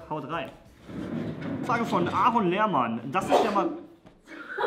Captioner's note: sneeze